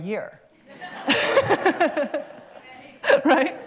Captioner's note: laughter